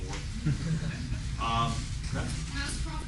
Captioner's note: laughter